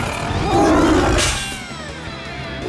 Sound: growling

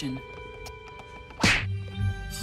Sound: punch SFX

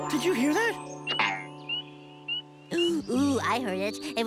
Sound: frogs chirping

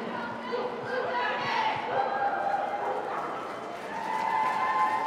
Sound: Team Canada chanting; crowd cheering and clapping

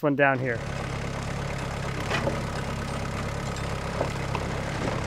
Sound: engine runs

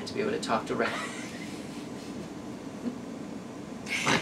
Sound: laughs

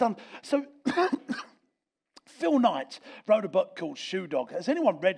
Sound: coughs

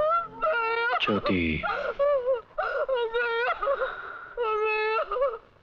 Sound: sobbing

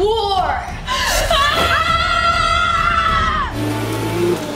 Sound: all screaming; scooter revving

